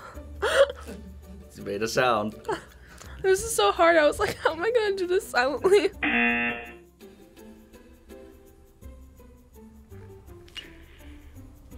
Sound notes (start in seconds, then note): 0.1 laughs; 6.0 buzzer rings